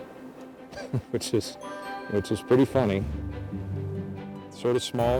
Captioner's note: laughing